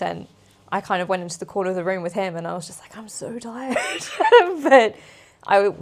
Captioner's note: laughs